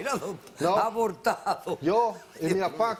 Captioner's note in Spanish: Ríe